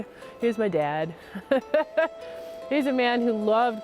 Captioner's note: laughs